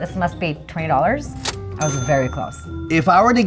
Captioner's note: cash register rings